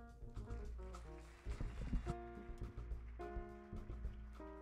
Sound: audience applauding

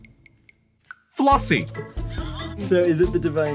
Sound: laughing

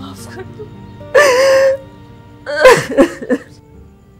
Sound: cries aloud

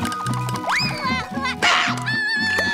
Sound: crying, thudding; crying

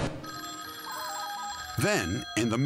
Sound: phone ringing

